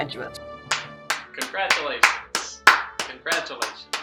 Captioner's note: claps